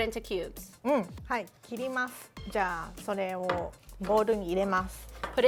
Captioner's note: speaking Japanese